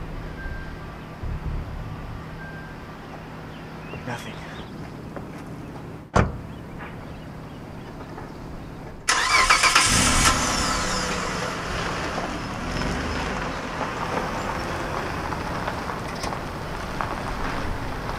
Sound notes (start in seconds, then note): 6.1 car door closes; 9.0 car cranks up and drives away